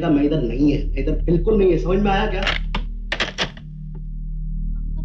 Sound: receiver hang up

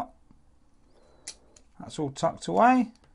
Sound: click

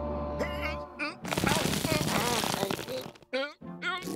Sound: paint creaking; straining

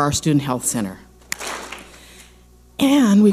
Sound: clap smack

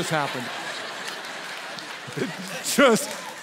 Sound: congregation laughs

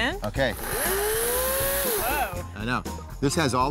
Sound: saw sound

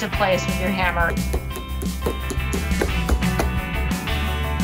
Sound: banging

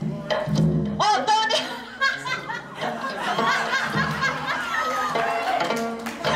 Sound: laughing

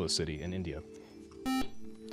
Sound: buzzer

